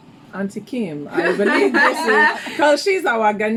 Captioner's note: laughs